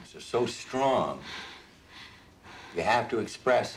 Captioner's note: breathing heavily